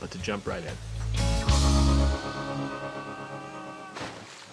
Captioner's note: yells